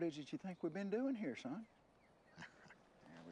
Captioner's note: chuckles